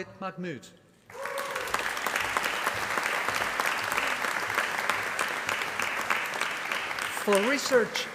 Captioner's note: applause